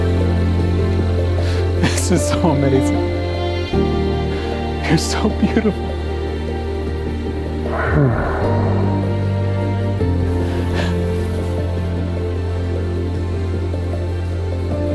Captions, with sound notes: - This is so amazing. You're so beautiful. (Bigfoot growls) (Bert sighs)